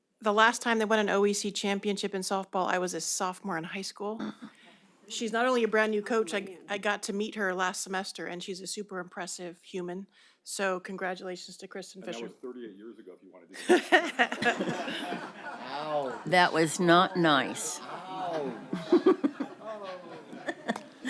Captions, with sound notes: The last time they won an OEC championship in softball. I was a sophomore in high school. She's not only a brand new coach. I got to meet her last semester, and she's a super impressive human. So congratulations to Kristen Fisher That was 38 years ago. [laughter] That was not nice. [laughter intensifies]